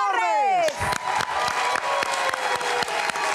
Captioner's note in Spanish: Aplausos